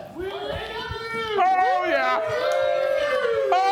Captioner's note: crew cheers